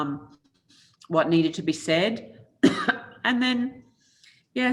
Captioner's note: coughs